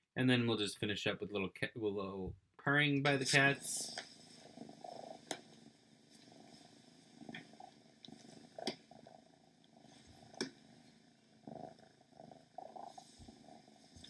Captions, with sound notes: And then we'll just finish up with purring by the cats. [PURRING]